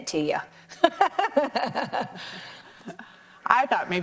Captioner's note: laughs